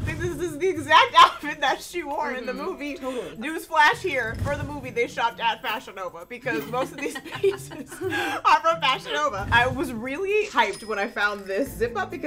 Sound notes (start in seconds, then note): 6.4 laughs